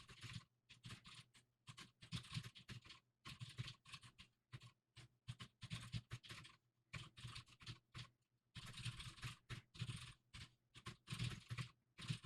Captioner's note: typing sounds